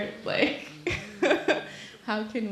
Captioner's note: laughing